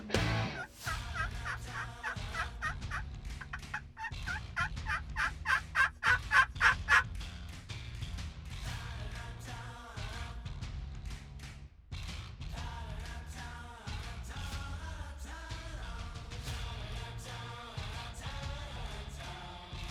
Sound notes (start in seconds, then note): 0.8 turkeys chirping; 8.7 rock music continues